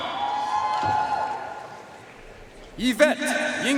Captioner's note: audience cheering and applauding